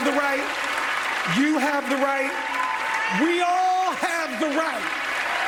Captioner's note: applause